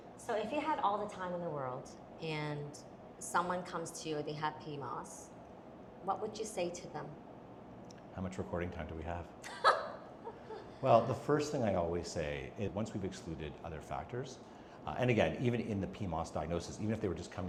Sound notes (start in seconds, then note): 9.4 laughs